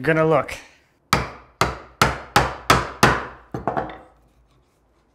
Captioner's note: hammer banging